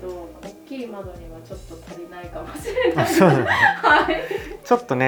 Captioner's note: laughter